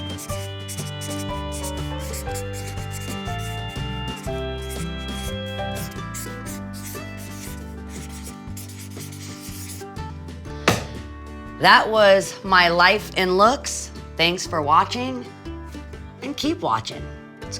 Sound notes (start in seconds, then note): 10.6 book slamming shut; 15.3 gentle country music